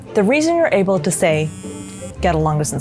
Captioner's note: phone vibrating